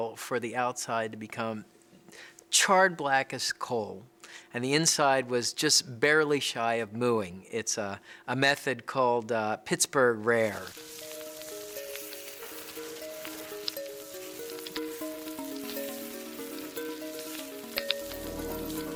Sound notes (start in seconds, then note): 10.5 food sizzling; 10.6 soft music